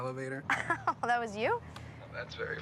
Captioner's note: laughs